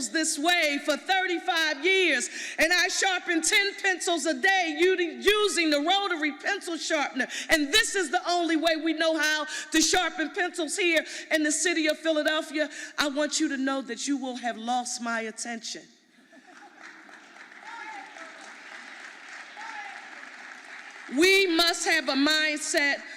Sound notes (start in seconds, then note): 16.4 audience applauding